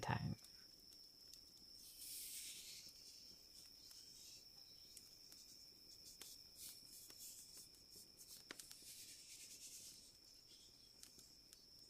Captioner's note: rubbing sounds